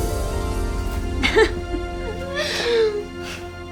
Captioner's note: laughs